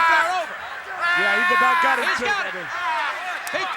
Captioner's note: crowd cheering